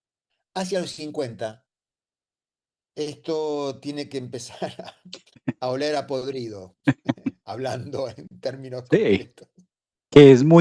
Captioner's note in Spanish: carraspeo